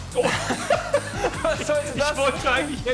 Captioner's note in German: Gelächter